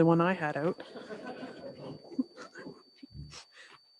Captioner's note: laughs